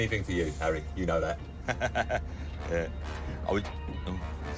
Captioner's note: laughs